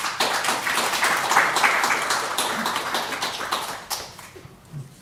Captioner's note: audience applauding